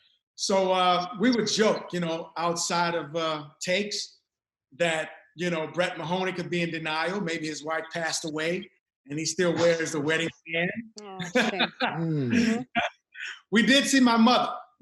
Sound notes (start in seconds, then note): 11.0 laughs